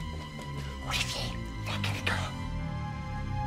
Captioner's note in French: en chuchotant